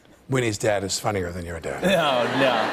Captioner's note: laughter